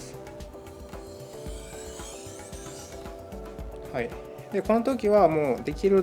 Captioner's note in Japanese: 刃先を研ぐ音